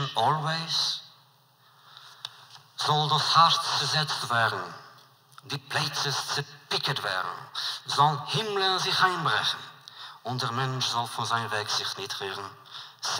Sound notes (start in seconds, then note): 1.7 Yiddish